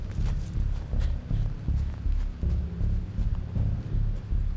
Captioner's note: leaves rustle